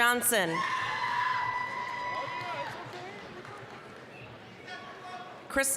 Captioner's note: applause, cheering